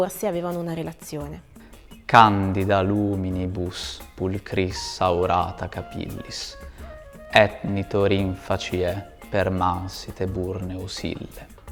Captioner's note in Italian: voce legge in Latino